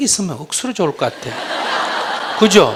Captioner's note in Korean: 청중 웃음